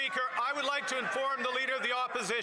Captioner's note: applause